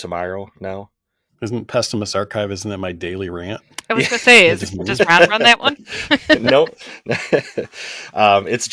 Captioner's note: laughter